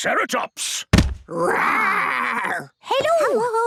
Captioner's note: thudding